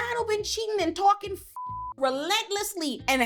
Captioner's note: beep